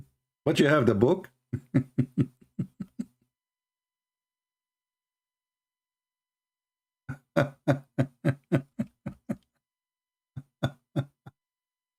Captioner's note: Ketawa